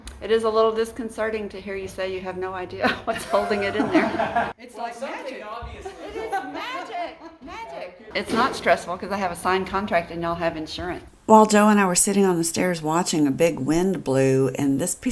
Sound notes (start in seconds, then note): 2.8 laughing